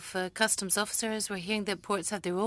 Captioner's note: speaking French